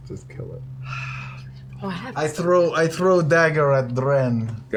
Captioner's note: sighs